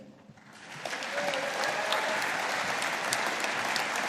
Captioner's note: audience applauding